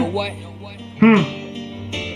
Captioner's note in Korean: 흠!